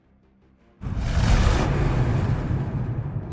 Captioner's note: engine REVVING!